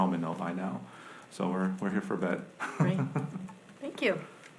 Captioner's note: laughs